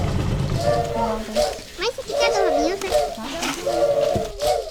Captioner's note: non-english speech